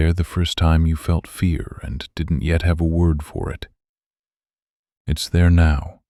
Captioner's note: quiet and steady